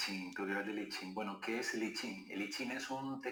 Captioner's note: speaking Spanish